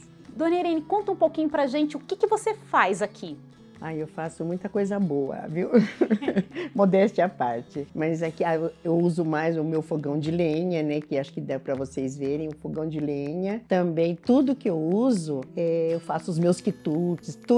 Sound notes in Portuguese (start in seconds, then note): 5.7 risos